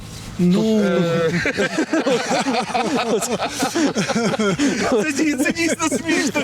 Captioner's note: laughs